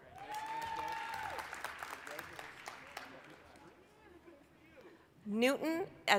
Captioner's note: applause, cheering